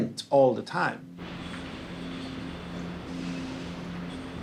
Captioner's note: construction sounds begin